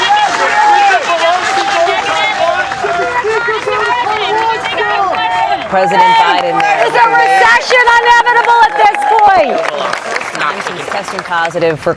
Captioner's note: cheers and applause